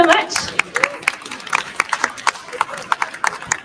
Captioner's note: cheers and applause